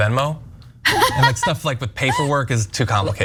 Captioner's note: laugh